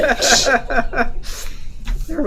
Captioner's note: laughing